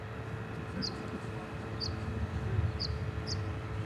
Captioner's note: birds chirping